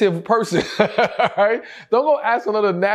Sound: laughs

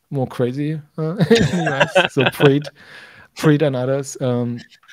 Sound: laughing

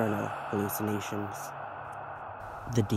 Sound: ghost sounds

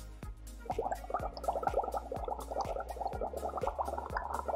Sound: water bubbles

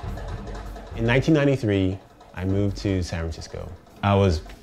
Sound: voiceover

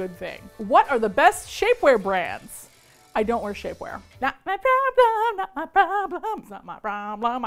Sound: singsong

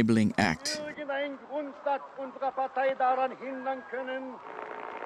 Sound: German spoken audio

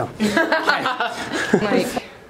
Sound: laughs

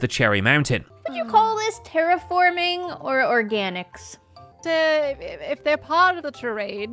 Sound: stammers

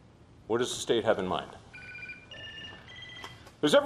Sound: ringing of cell phone

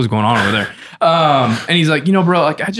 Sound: light laughter

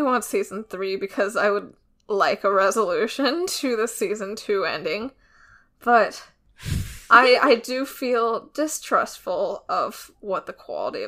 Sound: laughs

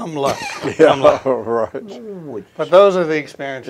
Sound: chuckles

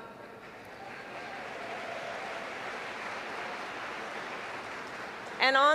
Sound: applause

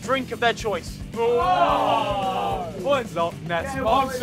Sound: Sidemen ooh's

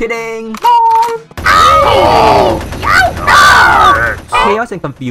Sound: shooting and screams of agony

